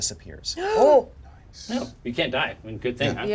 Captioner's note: Certainty gasps